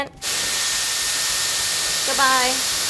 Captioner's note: dryer whirs